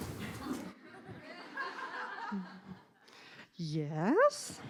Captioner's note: laughing